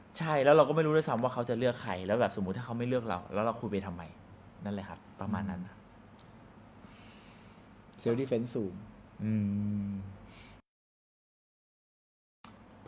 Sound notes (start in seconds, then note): 9.2 hums in agreement